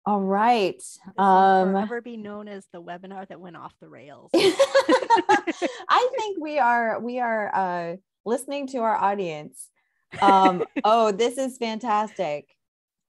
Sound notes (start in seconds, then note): 4.4 both laugh; 10.2 laughs